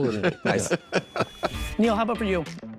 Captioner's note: laughing